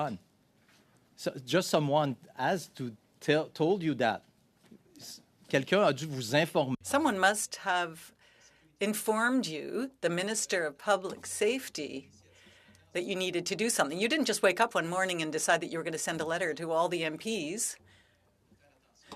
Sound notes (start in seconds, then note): 10.4 speaking French